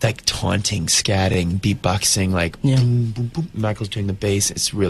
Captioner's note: imitates bass